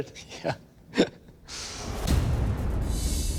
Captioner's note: chuckles